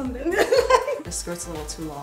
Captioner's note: daughter laughs